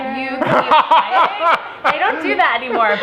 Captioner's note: laughter